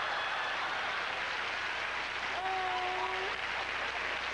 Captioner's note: howling laughter; thunderous applause